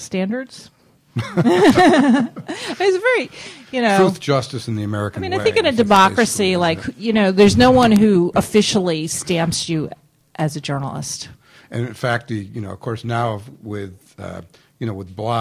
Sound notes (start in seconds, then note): 1.1 laughter